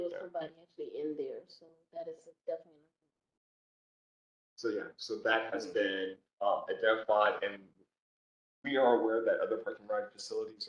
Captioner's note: low voice